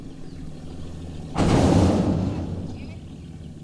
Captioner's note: loud boom